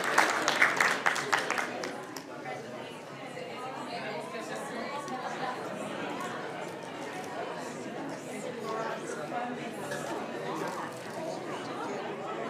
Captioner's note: applauding